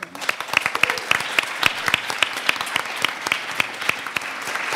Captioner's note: audience applauds